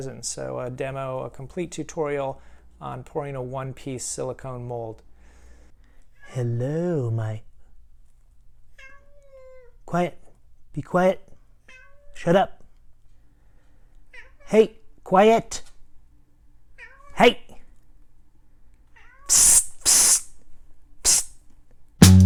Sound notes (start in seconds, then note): 8.7 cat meowing; 11.6 cat meowing; 14.1 cat meowing; 16.8 cat meowing; 18.9 cat meowing